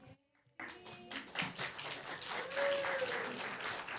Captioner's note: applause, cheer